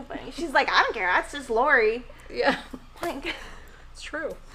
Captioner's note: laughing